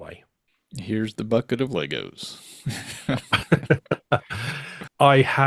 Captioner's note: both laughing